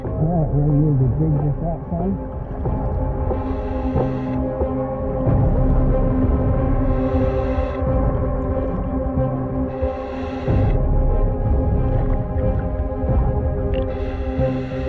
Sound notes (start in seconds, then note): 3.1 chilling music continuing; 3.1 oxygen tank whooshing